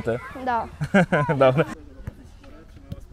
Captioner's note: laughting